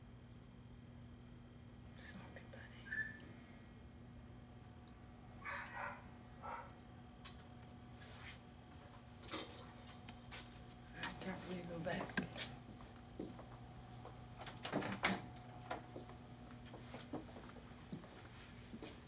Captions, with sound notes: Sorry, buddy. (dog barking) All right, time for you to go back.